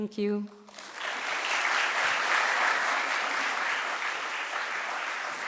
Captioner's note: audience applauds